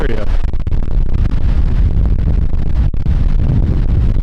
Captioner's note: wind clattering